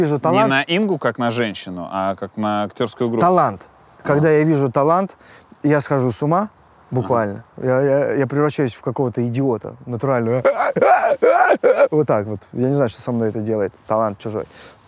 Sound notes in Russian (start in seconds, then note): 10.4 истерически смеется